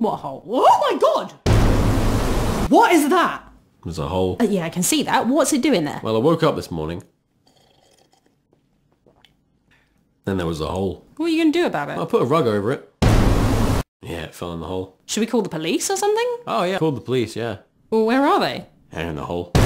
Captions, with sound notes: What hole? WWWOOOOHHH MY GOD! *Dramatic Music* What is that? It's a hole... Yeah i can see that but what's it doing there? Well i woke up this morning....(Sipping Coffee)... Then there was a hole. What are you gonna do about it? I put a rug over it... *Dramatic Music* Yeah...It fell in the hole. Should we call the police or something? Oh yeah...Called the police yeah... Well where are they? Their in the hole.